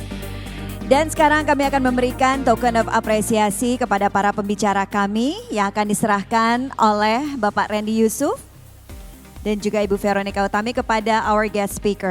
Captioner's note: non-english speech